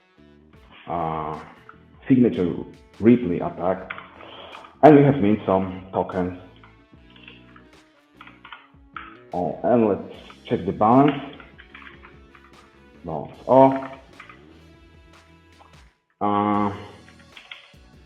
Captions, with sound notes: signature briefly and we have mint some tokens and let's check the balance. (keys clicking)